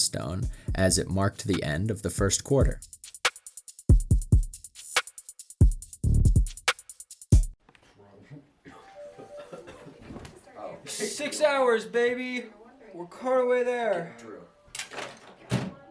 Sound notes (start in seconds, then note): 8.8 coughing